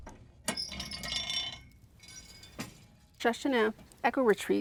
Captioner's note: door creaking